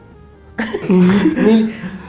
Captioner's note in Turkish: gülme sesi